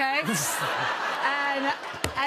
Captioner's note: laughter